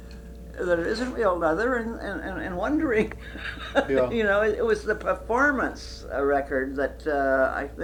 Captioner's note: laughs